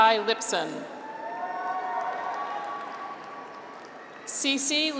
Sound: graduates cheer

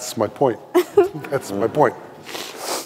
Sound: audience laughing

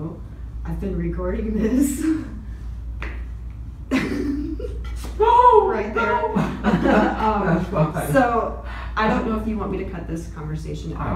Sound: laughter

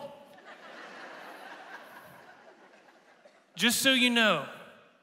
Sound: congregation laughing

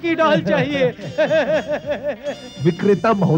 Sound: laughs

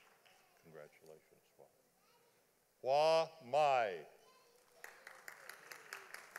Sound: audience applauding

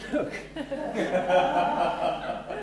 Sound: laughter

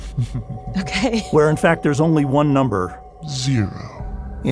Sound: laughs

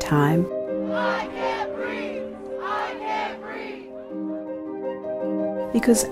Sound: crowds chant, "I Can't Breathe"

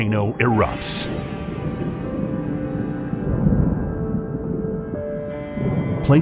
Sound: intense music; eruption booming

